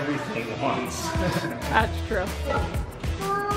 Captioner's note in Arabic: أبي يضحك